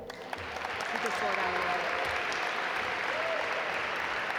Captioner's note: audience applaud